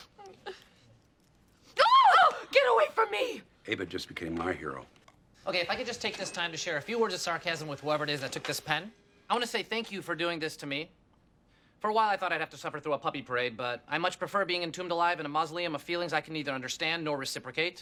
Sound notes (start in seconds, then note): 1.7 ANNIE screams in shock